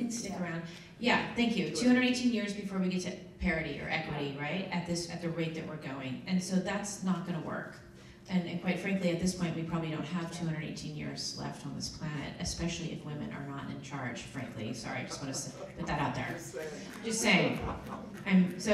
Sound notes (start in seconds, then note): 14.9 laughs